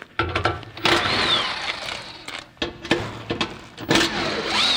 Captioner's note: drill socket whirring